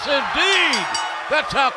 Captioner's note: bell ringing